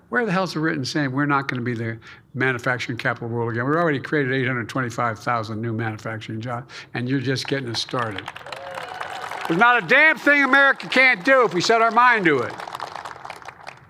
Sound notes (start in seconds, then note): 7.4 applause